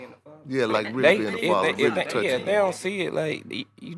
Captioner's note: group chattering